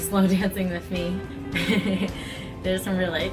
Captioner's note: laughs gently